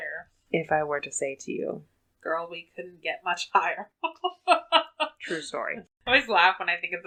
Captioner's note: laughs